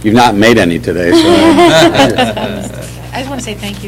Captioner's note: laughter